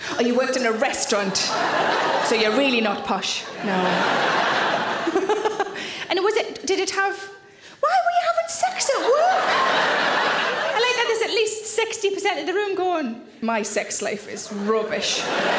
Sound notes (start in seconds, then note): 3.4 audience laughing; 5.0 Sarah laughs; 9.0 audience laughing; 14.4 audience laughing